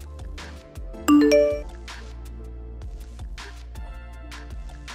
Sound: message dings

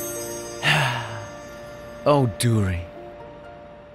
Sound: Ace sighs

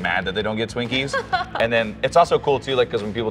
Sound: laughs

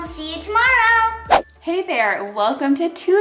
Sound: whooshing

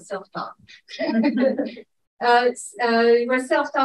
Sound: audience chuckling

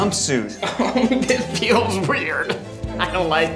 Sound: laughs nervously

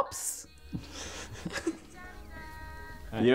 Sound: laugh silent-style

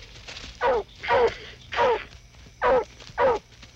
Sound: barking

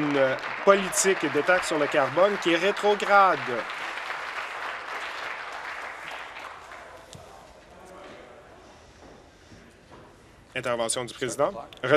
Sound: applause

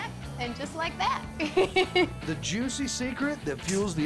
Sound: giggling

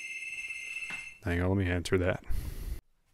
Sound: phone ringing

